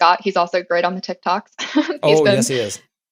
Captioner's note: laugh